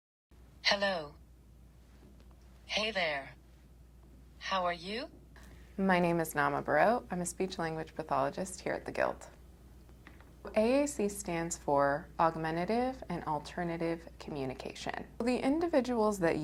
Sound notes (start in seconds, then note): 0.6 automated voice